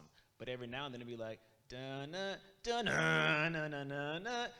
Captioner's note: hums